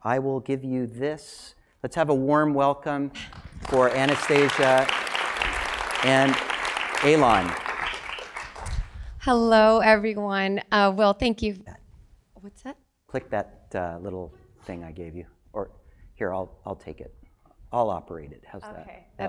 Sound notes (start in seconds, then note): 3.2 applause